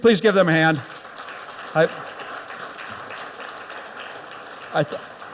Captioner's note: audience applauds